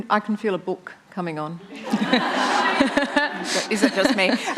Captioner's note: laughter